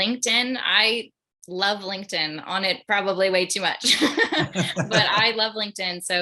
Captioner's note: laughs